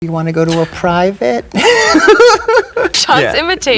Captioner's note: laughs